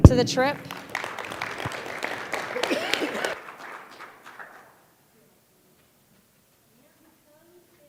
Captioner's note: applause